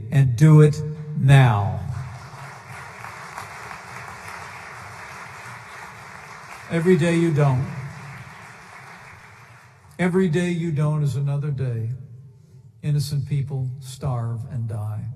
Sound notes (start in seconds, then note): 1.8 applause